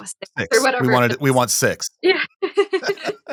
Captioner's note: chuckling